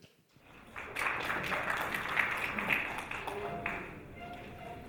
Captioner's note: audience applauding